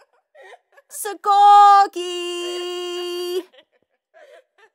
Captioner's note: girls giggling